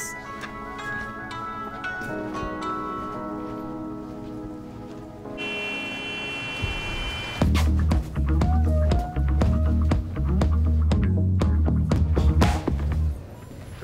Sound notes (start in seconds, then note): 0.0 gentle music; 5.3 car horn beeps; 7.4 funky music